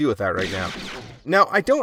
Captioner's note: gunshot